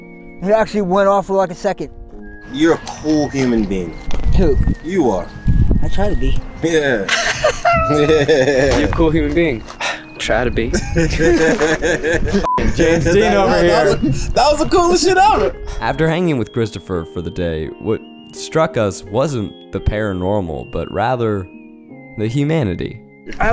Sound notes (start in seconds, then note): 6.7 laugh; 10.7 laughs